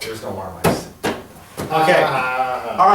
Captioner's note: laughs